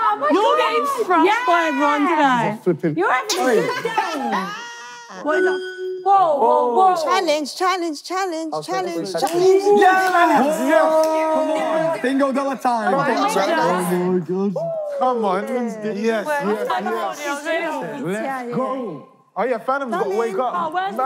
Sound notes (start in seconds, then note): 5.2 TV beeping; 9.3 contestants cheering